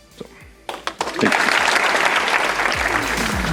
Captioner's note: audience applause